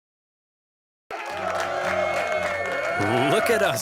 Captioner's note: cheering